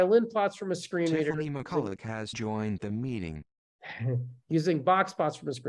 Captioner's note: voiceover